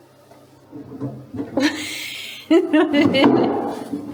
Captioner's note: laughing